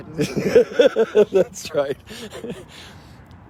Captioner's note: father laughs